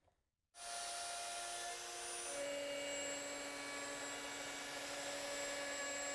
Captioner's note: high-speed machine whirring